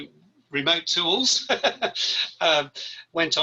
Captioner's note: laughs